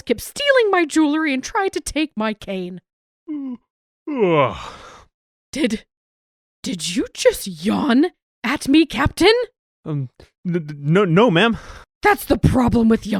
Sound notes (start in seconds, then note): 4.0 yawn